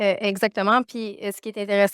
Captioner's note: speaking French